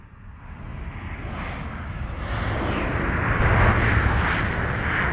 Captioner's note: engine roars